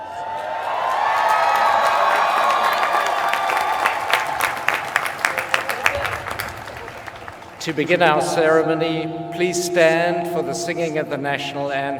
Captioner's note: cheers and applause